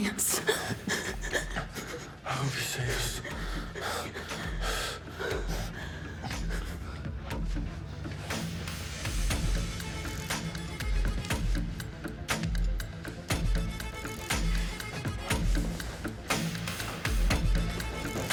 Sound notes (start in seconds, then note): 3.7 dramatic music; 9.1 footsteps thudding; 13.1 dramatic music